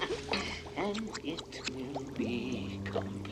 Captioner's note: cackles